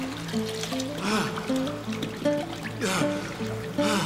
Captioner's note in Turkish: Derin nefesler alıyor